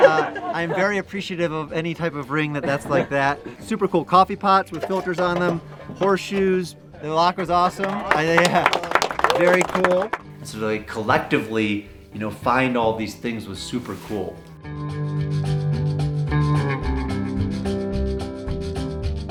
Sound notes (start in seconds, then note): 7.3 volunteers clap; 13.5 upbeat guitar music